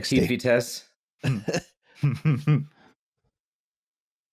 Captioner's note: laughter